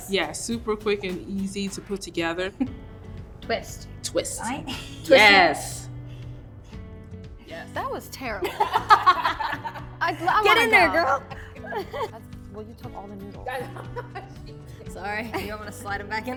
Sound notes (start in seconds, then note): 8.4 laughter